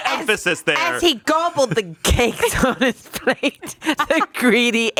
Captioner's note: laughs